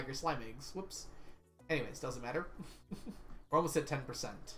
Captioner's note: chuckles